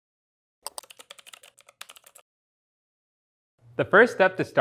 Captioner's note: mouse clicks; keyboard typing